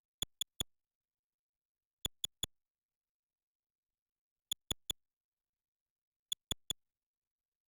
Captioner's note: soft, high-pitched clicks